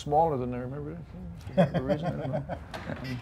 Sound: laughing

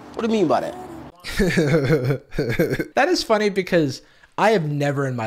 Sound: laughs

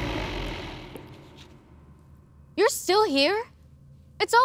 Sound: creature growls

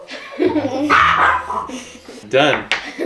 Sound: laughing; dog barking

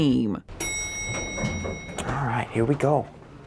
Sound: elevator dings

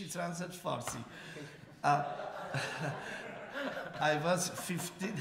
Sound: laughter

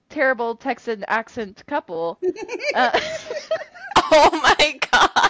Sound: laughter

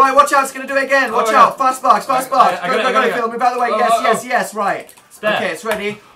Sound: makes panicked noises; claps hands

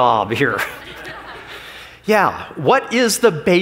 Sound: laughs

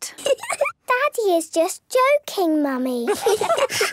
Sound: laugh; menacing voice

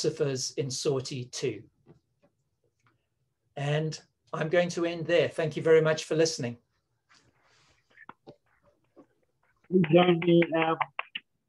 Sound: clapping

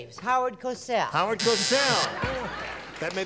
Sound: buzzer

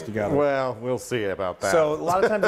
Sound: laugh

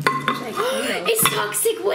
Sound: gasps

